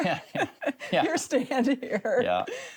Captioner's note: both chuckle